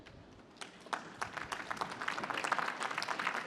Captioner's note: applause